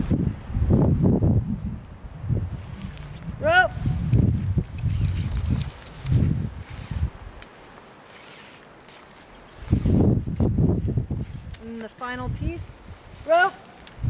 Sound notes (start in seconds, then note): 0.5 wind blowing; 5.4 ropes sliding